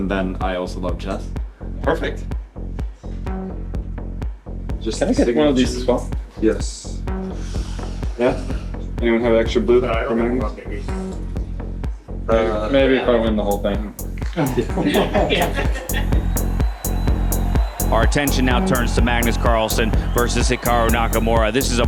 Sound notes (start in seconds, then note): 14.3 group laughs; 16.2 crowd cheering, applauding